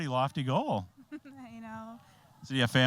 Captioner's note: giggling